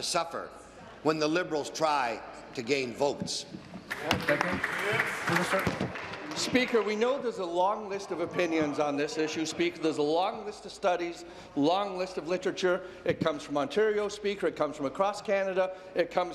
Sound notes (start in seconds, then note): 6.9 applause